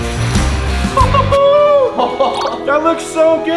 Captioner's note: upbeat heavy rock music; laughs excitedly; chuckles excitedly